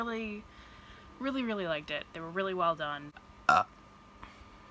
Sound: burps

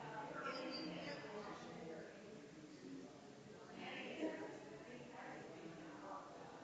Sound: people chattering distantly continues

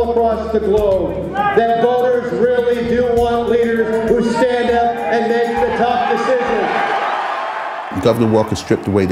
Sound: cheering

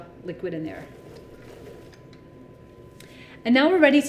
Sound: chickpeas rumbling

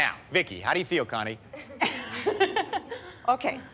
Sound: laughter

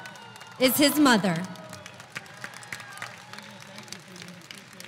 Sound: audience applauding

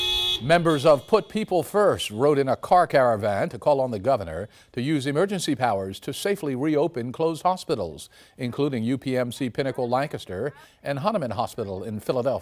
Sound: cars honking

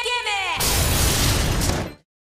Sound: explosion

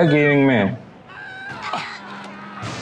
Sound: crashes again

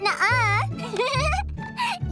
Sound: laughing

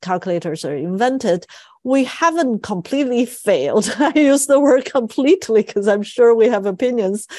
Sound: laugh

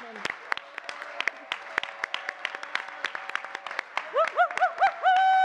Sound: audience clapping and cheering

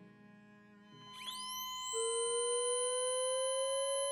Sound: defibrillator charging

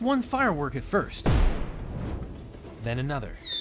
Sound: firework booms

